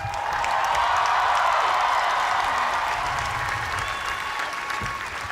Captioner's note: cheers and applause